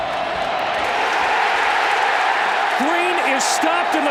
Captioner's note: crowd cheers wildly